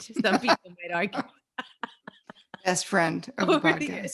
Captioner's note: both laughing